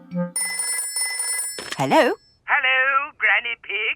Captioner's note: telephone ringing